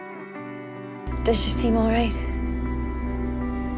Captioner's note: voiceover